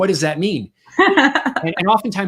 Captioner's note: laughs